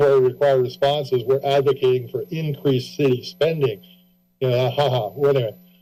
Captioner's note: chuckles